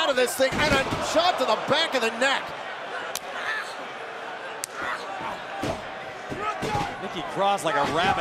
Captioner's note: crowd cheering